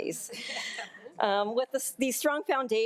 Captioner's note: board members laughing